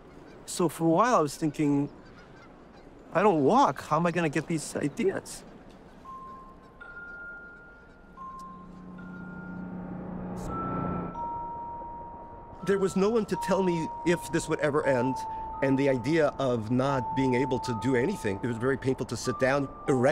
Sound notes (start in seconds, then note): 6.2 light chiming music; 8.4 vehicle motor roaring